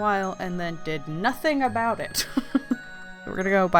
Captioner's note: laughs